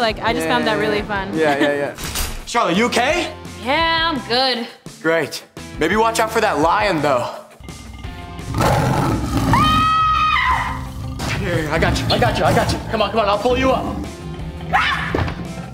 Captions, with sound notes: - I just found that really fun. - Yeah, yeah, yeah. - Charlotte, you OK? - Yeah, I'm good! Great, maybe watch out for that lion though. [roaring] [screaming] Here, I got ya, I got ya, I got ya, come on, come on, I'll pull you up! [screaming]